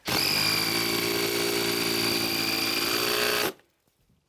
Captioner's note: drilling sound